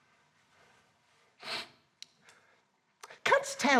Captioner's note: sniffs